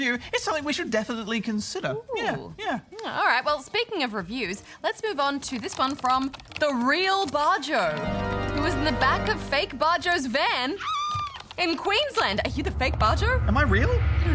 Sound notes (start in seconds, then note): 7.8 doomful piano; 10.7 screaming